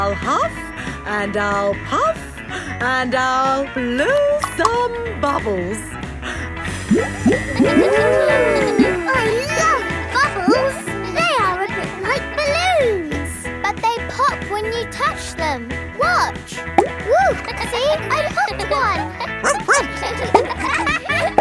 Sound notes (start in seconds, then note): 8.2 kids gasping and laughing; 17.0 kids laughing; 19.4 barks